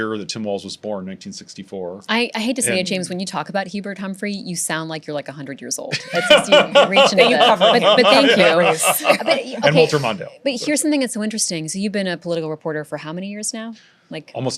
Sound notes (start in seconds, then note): 5.9 laughing